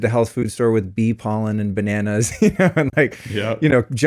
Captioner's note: laughs